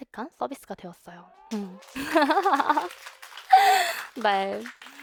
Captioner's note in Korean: 환호